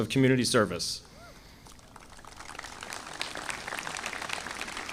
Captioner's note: audience applauding